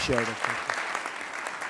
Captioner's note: applause